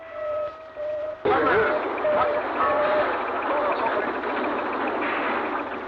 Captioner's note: indistinct conversation